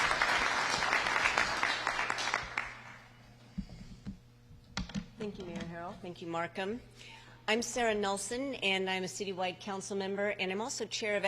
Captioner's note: applause